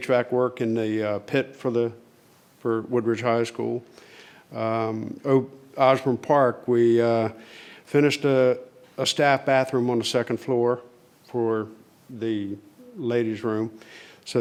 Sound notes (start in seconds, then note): none